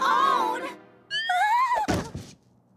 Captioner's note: whimpers